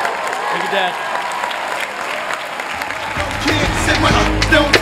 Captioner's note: applause